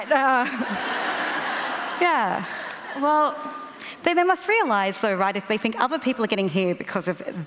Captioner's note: laughter